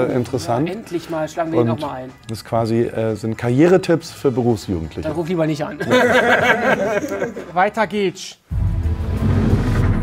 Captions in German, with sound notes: Endlich mal, schlagen wir ihn noch mal ein. Das sind Karrieretipps für Berufsjugendliche. Dann ruf lieber nicht an. (Lachen) Weiter geht's. (Spannungsvolle Musik)